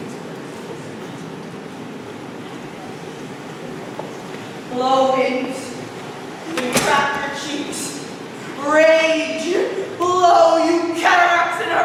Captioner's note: door opens offscreen. Storm rages